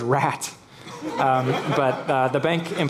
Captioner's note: laughing